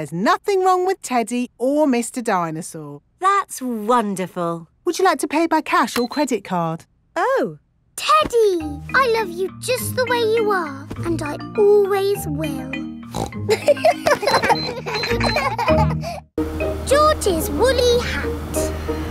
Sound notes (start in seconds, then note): 13.1 snorts; 13.4 kids laughing